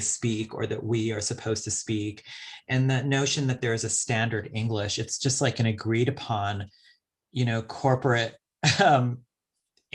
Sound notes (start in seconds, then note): 8.3 chuckles